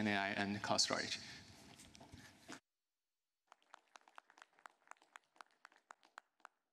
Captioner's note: applause